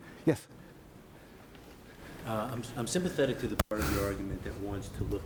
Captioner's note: voiceover